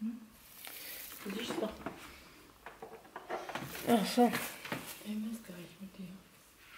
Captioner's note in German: Murmelgeräusche